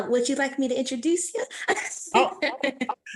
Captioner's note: laughter